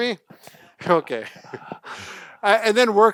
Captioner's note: laughs